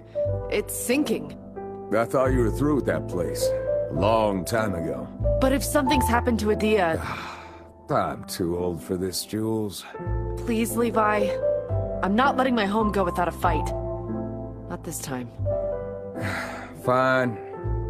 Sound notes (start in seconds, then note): 7.0 sighs